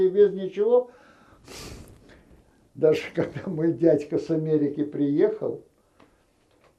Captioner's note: laughing